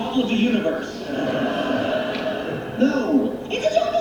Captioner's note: studio audience laughing